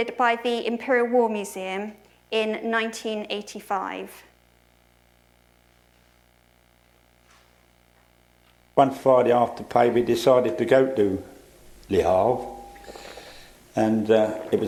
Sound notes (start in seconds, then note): 5.8 recording plays